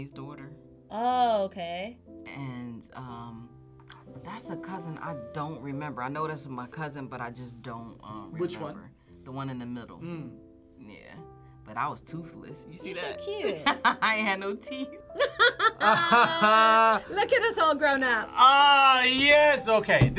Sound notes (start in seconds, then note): 15.1 both laugh; 15.2 laughs